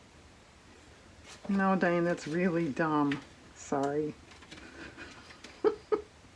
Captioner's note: laughs